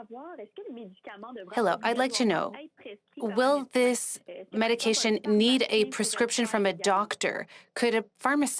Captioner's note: speaking French